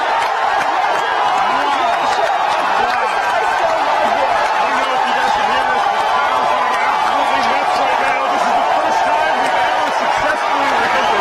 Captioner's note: cheers and Applauding